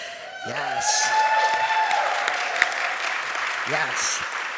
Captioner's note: audience cheering and applauding